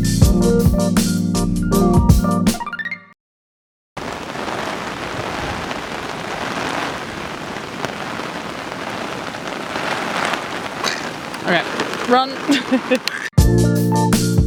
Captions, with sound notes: *heavy rain* Ahh Alright, run! *laughter*